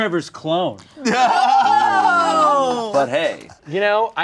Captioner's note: everyone laughing